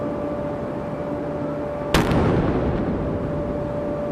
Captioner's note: cannon firing